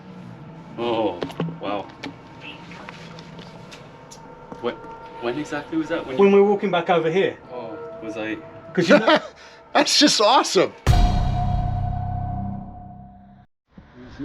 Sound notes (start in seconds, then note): 8.8 laughs; 10.9 intense dramatic music